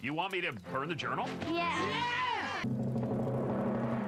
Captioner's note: kids Cheer